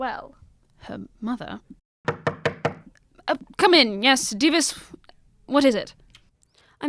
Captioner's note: there is a knock at the door